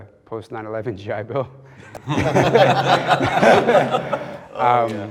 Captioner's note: men laughing